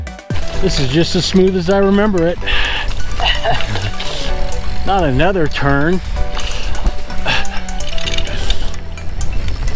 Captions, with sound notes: This is just as smooth as I remember it Not another turn [laughing]